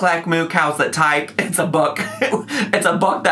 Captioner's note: laughs